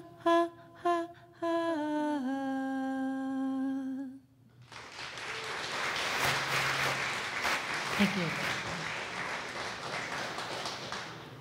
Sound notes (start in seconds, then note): 4.6 audience applause